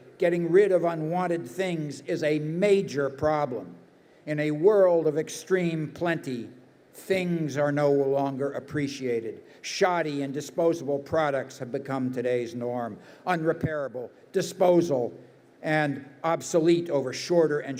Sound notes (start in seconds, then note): none